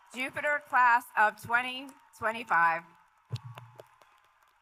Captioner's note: cheers and Applause